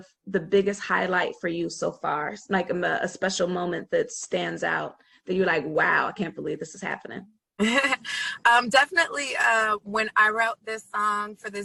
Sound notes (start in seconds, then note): 7.6 laughs